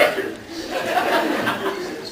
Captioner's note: laughing; laughs